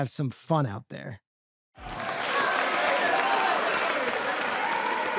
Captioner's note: cheering